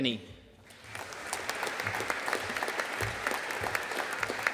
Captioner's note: audience applauding